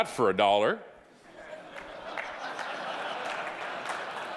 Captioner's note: audience laughing